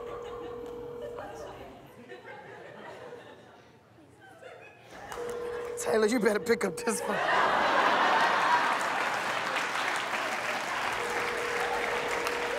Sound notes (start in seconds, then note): 0.0 laughter; 3.2 ringing continues